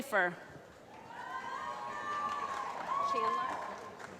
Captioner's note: applause